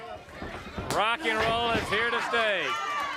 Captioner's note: crowd cheering